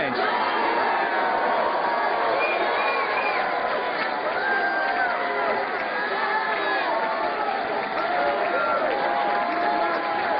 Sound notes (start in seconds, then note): 0.2 cheers and applause; 2.2 crowd commanding "u.s.a."; 7.2 crowd chanting